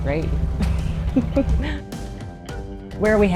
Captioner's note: chuckles